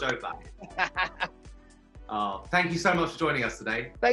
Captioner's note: laughing